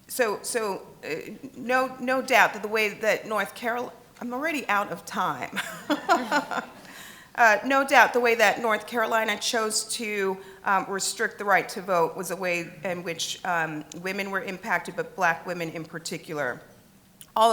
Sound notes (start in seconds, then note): 5.5 chuckling